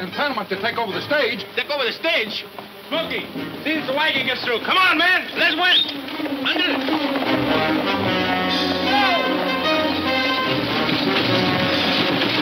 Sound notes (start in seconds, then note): 5.0 hooves clunking; 9.4 wheels clunking